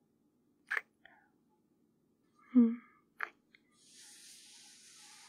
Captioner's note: kiss